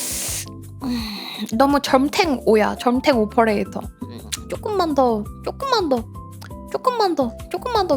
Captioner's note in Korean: 한숨